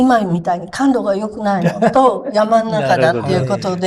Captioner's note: laughs